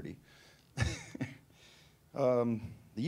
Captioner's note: laughing